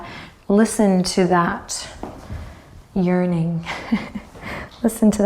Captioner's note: chuckles